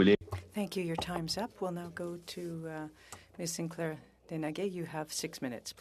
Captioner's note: speaking French